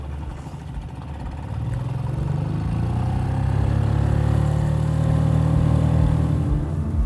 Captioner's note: engine chugging; somber piano music